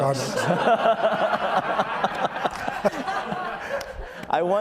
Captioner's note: all laughs